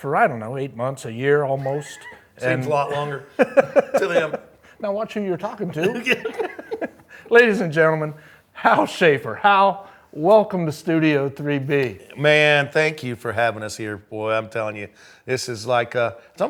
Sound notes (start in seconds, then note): 1.5 chuckles; 5.6 laughs; 5.7 both laughing